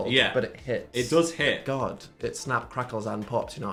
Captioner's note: none